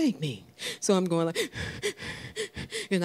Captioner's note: crying